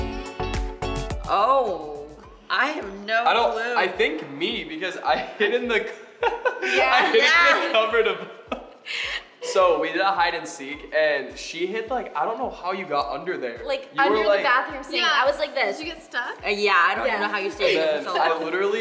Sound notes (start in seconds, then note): 6.2 laughing